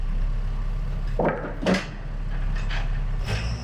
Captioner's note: wood clunks